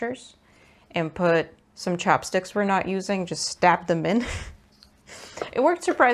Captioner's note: laughs